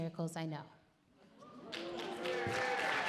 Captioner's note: audience cheer and applaud